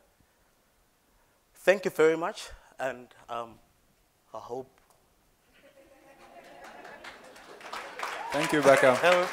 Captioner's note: applause